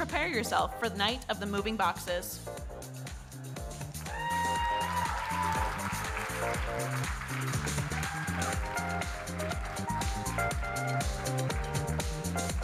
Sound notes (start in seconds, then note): 3.9 audience cheering and applauding; 8.6 upbeat music